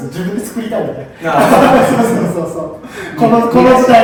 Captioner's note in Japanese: 爆笑